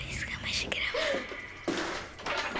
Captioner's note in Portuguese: Suspiro de susto